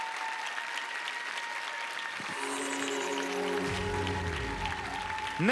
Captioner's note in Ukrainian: оплески